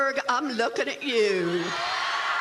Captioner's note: cheering